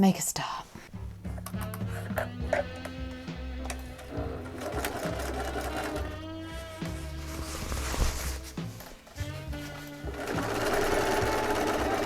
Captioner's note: sewing machine whirring